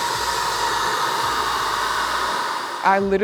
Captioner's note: spray gun whirring